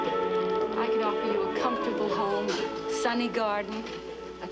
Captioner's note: volume Lowers